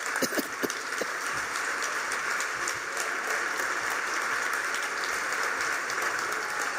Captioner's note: applause